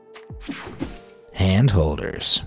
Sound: logo whooshing

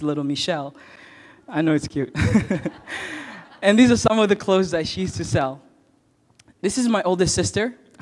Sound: chuckle

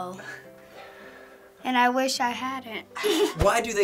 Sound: giggles

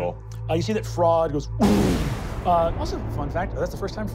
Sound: booming

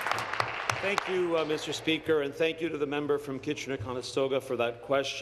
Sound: applause

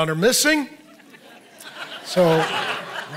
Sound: audience laughing

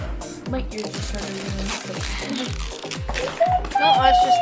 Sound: plastic tearing

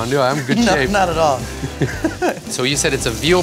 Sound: laughs

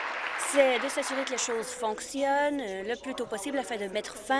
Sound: applause

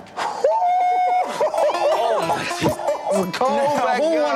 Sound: yelling

